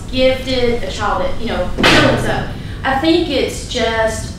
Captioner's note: banging